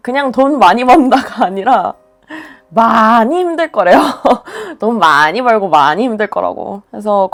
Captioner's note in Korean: 웃음